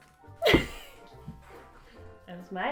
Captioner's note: laughter